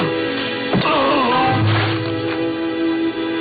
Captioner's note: shovel thudding